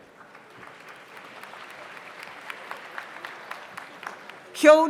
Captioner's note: audience applauds